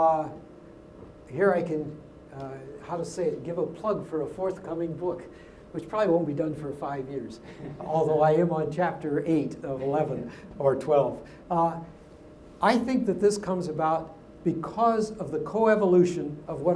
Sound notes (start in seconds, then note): 7.5 laugh